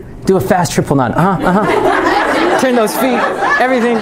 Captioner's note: laughter